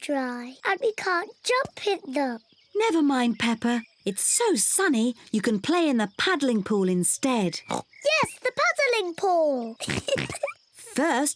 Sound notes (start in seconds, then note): 7.4 giggles; 7.6 oinks